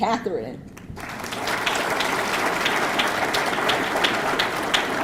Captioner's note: audience clapping